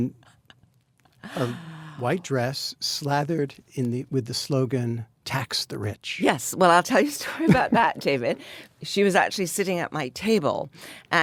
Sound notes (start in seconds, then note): 7.2 Anna laughs